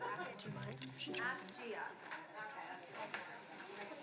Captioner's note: chatter